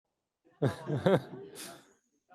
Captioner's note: laughter